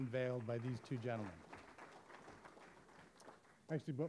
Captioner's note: audience applauding